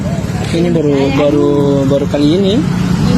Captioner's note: indonesian dialogue continues